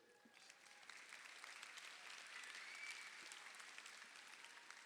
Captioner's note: crowd applauding